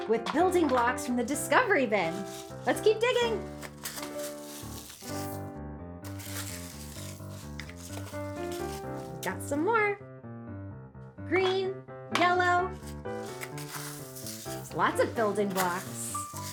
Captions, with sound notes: with building blocks from the discovery bin. Let's keep digging. (rocks rattling) (playful piano music continues) Got some more. Green, yellow. There's lots of building blocks.